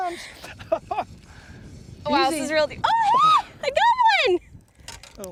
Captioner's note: laughter